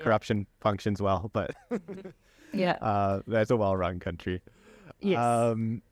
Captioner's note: laughter